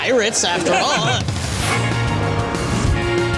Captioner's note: laughs; laughter; dramatic adventure music